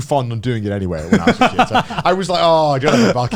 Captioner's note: laughs